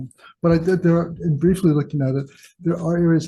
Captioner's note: stammering